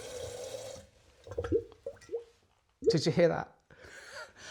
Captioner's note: glugging sounds